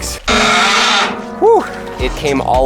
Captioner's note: piano lid screeching